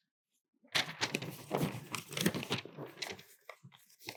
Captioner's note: paper rustles